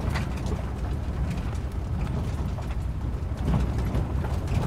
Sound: solitary road sounds inside vehicle

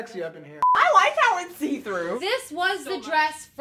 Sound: beep

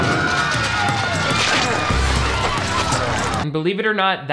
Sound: dramatic music; everyone screaming

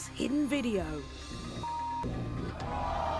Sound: beeping; audience gasping

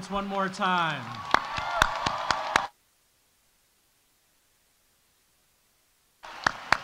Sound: audience cheering; audience applauding

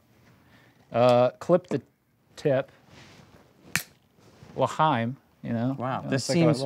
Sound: stick snaps

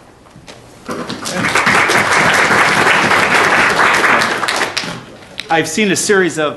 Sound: applause

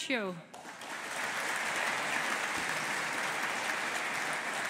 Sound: audience applauding

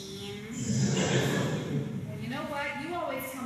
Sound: laugh track

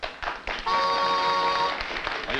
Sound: applause

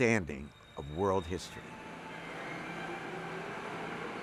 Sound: train rumbling

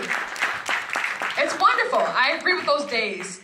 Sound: applause

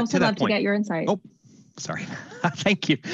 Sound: chuckles

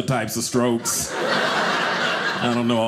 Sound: audience laughing

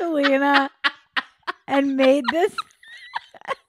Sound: laughing

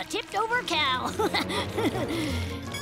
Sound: laughs

